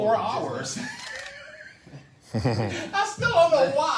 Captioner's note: laughs